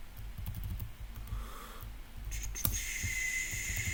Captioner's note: typing noise